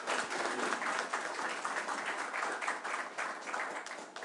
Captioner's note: applause